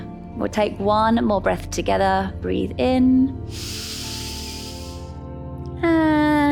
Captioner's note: inhales